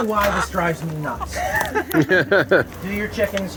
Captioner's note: laughing